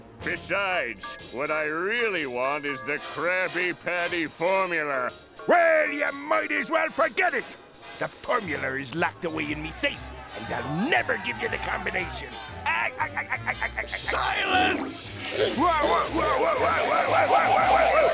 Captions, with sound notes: Besides, what I really want is the Krabby Patty formula. Well, you might as well forget it. The formula is locked away in me safe, and I'll never give ya the combination. [laughing] Silence! [toilet flushing] Whoa, whoa, whoa-oh-oh!